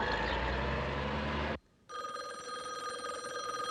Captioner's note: rings